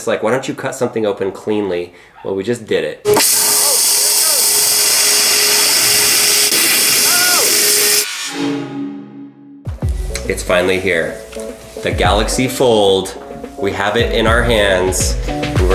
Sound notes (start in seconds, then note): 3.1 loud sawing sounds